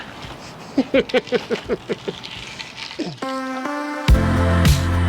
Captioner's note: laughing